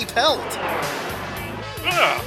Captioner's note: jet noise